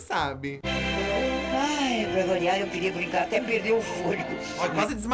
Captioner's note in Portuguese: Hebe suspira